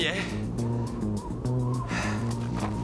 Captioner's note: panting